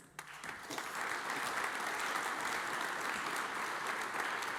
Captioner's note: audience applauds